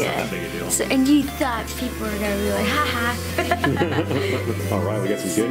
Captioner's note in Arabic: يضحك